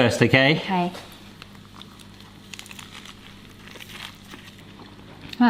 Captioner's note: crunchy chewing